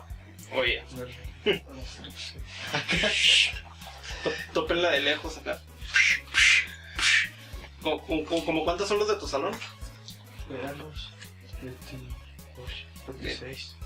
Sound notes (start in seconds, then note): 6.2 sound of hits